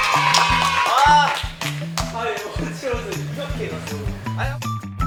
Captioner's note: aaaaah~